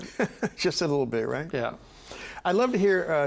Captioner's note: chuckling